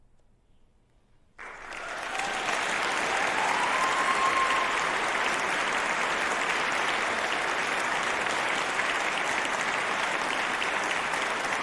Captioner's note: applause